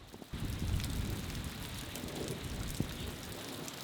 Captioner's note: rain pours